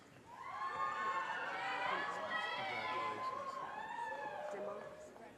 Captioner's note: audience cheers and applause